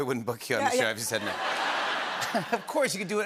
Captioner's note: laughter